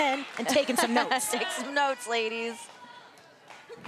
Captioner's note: laugh